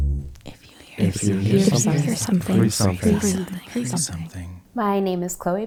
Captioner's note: chorus of whispers